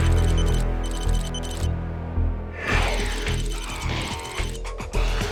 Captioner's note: rapid beeping; dramatic music; energetic music